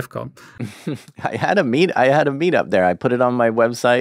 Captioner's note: laughs